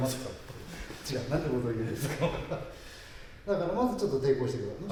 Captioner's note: laughs